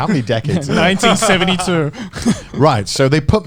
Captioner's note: chuckling